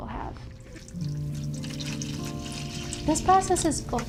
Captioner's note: liquid pouring